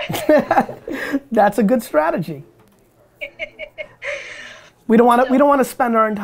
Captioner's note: laughs